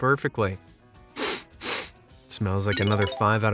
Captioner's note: sniff-sniff